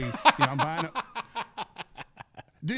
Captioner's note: laughing